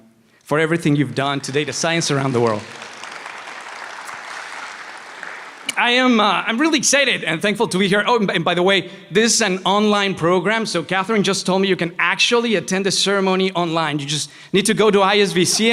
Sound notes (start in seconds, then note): 3.2 applause